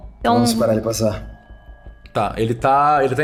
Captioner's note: none